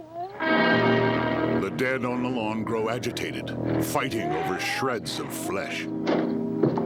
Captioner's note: creatures moaning